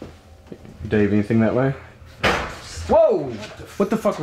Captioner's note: loud bang